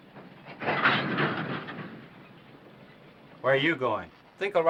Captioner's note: cart clanking